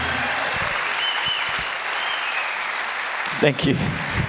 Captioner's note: audience cheers and applauds